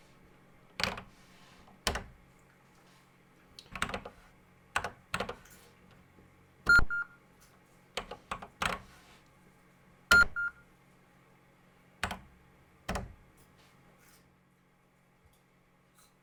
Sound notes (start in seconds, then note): 0.9 typing on a C64 keyboard